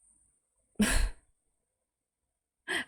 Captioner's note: chuckles